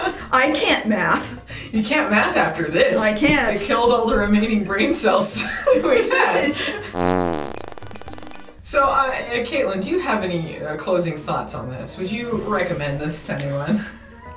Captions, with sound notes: I can't math. You can't math after this. I can't. You killed all the remaining brain cells. [chuckling] That we had [Jim Varney fart noises] So, uh, Kaylyn. Do you have any new closing thoughts on this? Would you recommend this to anyone?